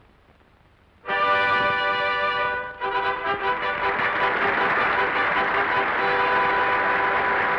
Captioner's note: triumphant music; audience applauding